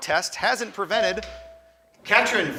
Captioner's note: buzzer chimes